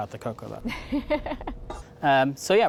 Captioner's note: laughing